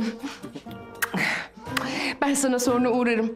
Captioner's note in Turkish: Öpme sesi